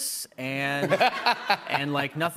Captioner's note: laughter